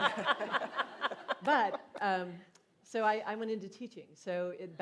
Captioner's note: laughter